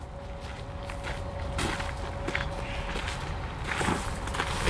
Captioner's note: footsteps thudding